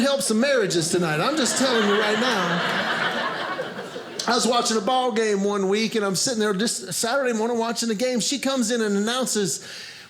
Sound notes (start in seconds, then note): 1.1 audience laughing